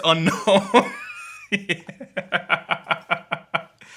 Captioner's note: laughing